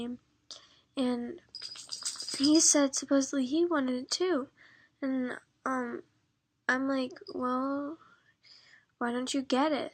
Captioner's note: rattling